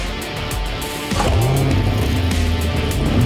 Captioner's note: the engine howls